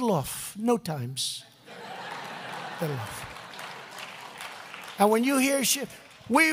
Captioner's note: laughter and applause